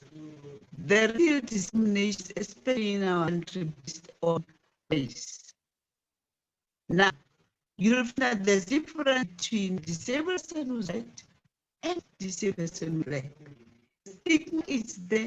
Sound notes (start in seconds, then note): 7.0 distorted audio